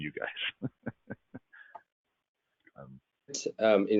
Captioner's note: laughs